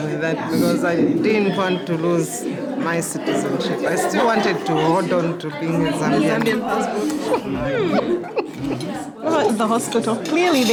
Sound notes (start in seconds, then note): 6.9 laughs genuinely